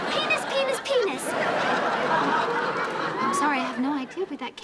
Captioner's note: audience laughing